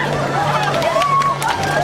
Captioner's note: cheering